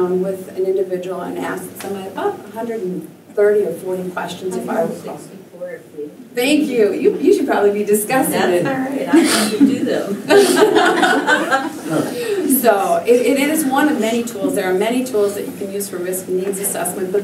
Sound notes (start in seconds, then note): 10.2 laughter